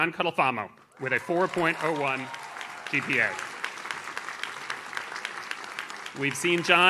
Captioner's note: audience cheers